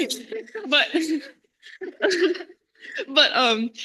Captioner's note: laughter